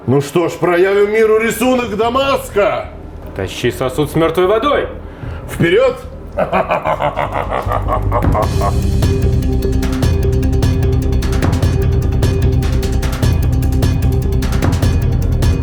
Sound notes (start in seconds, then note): 6.2 laughing